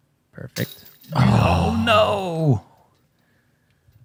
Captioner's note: gasps